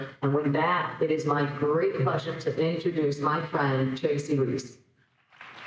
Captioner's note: audience applauding